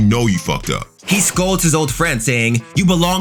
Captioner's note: fire whooshing